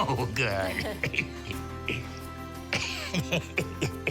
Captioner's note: laughing